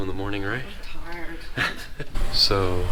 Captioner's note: scoffs